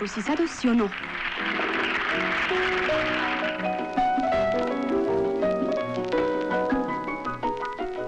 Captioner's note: cheers